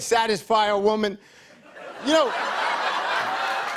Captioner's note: laughter and applause